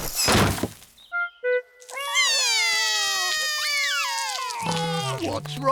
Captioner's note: both cry